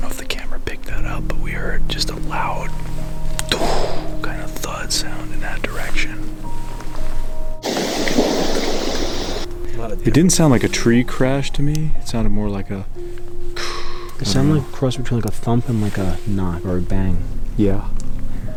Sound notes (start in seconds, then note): 3.4 exhaling; 7.8 objects thudding; 13.5 exhaling